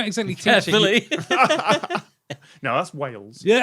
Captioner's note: laugh